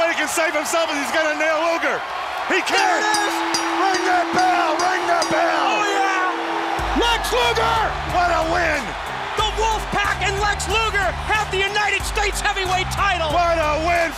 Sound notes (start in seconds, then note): 4.7 bell ringing; 7.0 crowd cheering